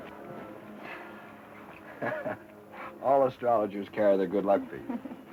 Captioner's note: chuckles; chuckles